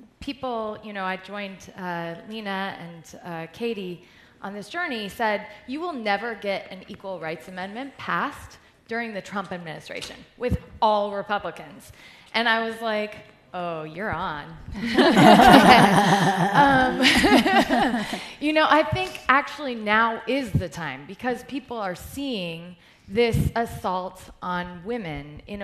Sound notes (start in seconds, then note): 14.8 laughter